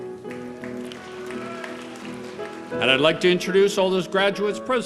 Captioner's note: applause